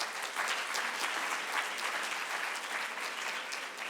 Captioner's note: clapping